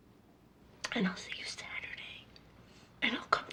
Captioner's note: whispers